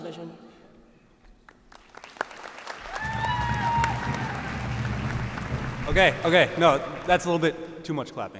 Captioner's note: cheers and applause